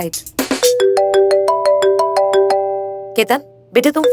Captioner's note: Phone ringing